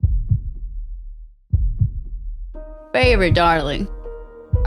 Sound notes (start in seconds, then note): 1.5 heart beating